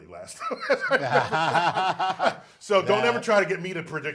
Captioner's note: laughs